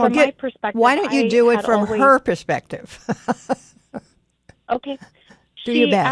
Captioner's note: laughs